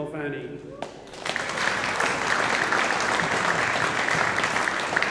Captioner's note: audience applauding